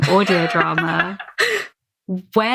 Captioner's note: laughs